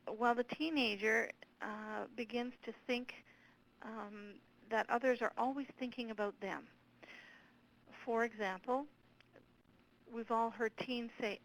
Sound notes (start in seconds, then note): none